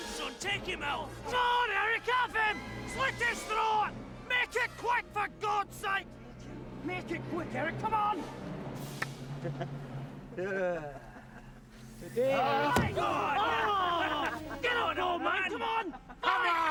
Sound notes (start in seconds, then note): 8.8 men yell and laugh